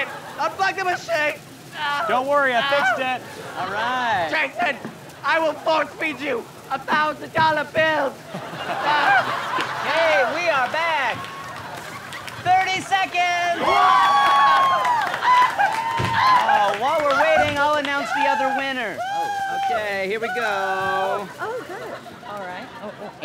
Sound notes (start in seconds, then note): 8.2 laughter; 13.3 cheering; 13.5 screaming